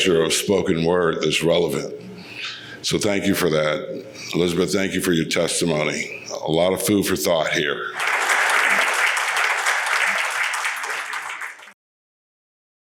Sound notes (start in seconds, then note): 7.9 audience applauds